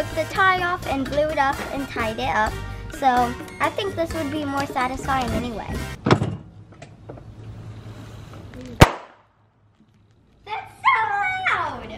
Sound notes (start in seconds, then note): 8.6 pop